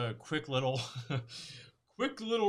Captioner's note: laughs